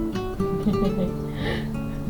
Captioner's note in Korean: 웃음